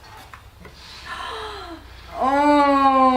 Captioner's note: gasping